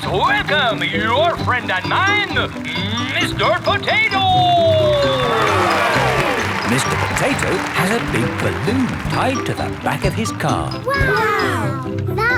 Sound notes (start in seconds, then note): 5.8 cheering